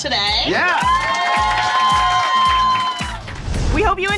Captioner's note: group applauding